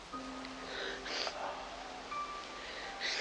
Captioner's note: Taryn sobbing; dramatic music